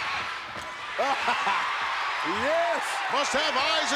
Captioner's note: laughs